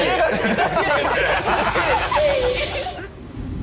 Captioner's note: laughing